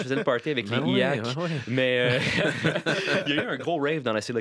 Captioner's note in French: rires